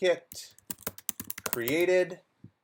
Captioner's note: keyboard clattering